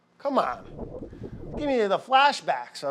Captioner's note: air whooshing